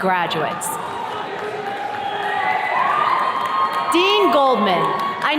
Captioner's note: attendees cheers and claps